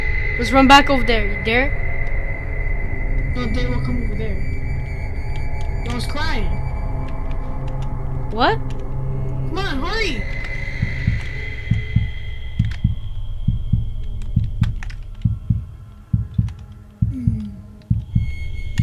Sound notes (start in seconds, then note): 17.2 grunts